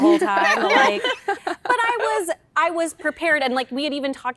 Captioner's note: laughter